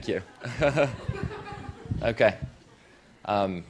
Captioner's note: laughter